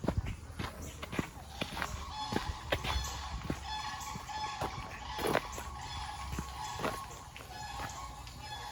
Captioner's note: geese quacking